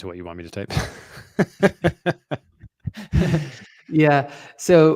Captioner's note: laughs